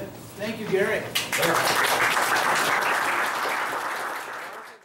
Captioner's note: applause